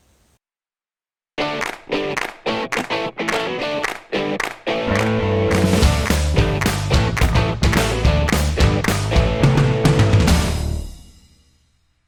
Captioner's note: claps